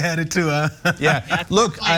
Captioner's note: laugh